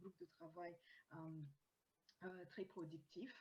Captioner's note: speaking french